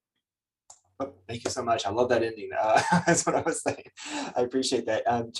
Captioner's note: laughs